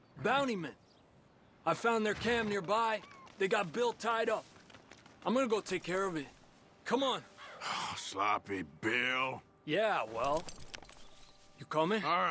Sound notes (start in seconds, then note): 7.4 sighs